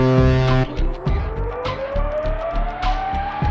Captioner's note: horn blares; engine powering up